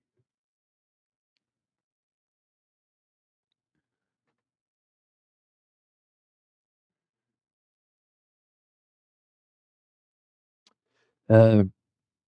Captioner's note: silence